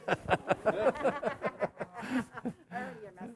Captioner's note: emcee laughing